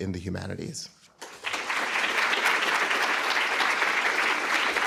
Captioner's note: applause